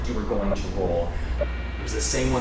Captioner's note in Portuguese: Distorção de áudio